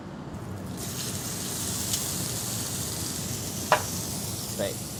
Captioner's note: steak sizzling in pan